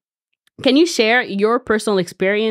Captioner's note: none